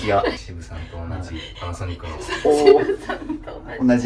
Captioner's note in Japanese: 笑い